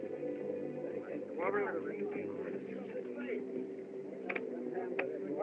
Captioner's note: chattering